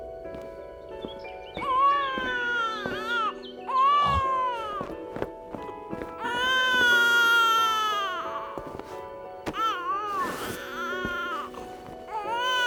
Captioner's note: baby wailing